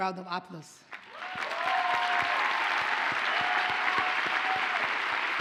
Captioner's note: audience cheers and applauds